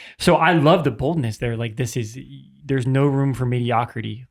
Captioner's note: none